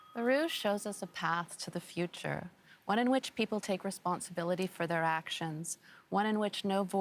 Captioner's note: bell rings